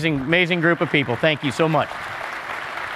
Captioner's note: applause